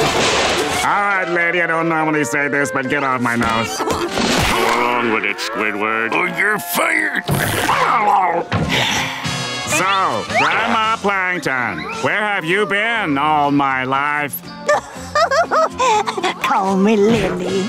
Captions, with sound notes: All right lady, I don't normally say this, but get off my nose. -Roll with it Squidward! -Or you're fired! [sighing] So, Grandma Plankton, where have you been all my life? [giggling] Call me Lilly.